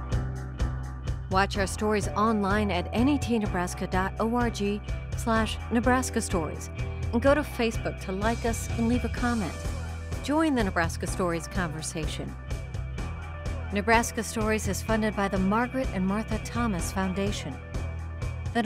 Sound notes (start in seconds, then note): 0.0 rock music; 1.2 voiceover